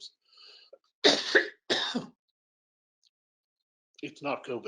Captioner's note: coughing